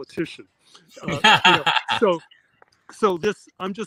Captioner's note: John laughs